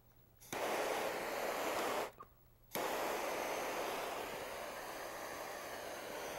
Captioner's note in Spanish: Silbido soplete